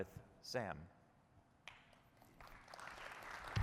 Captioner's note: applause